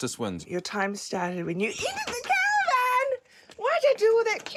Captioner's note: shrieks